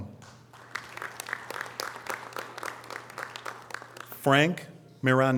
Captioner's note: audience applause